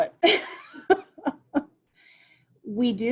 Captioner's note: laughs